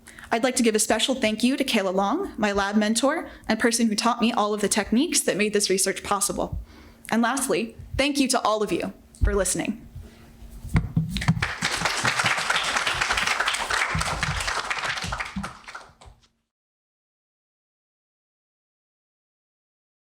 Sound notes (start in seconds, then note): 11.1 audience clapping hands